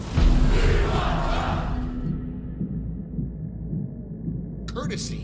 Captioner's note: chanting